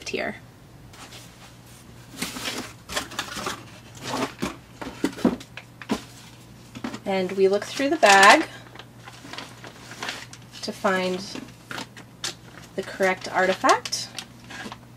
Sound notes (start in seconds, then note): 2.1 sound of rummaging through the box